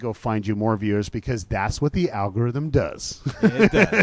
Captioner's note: laughs